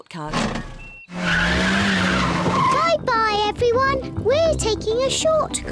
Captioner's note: tires screech